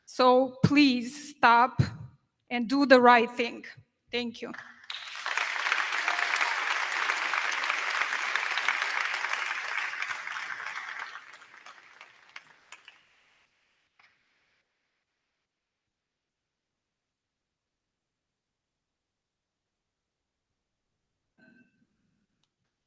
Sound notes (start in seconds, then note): 4.7 crowd clapping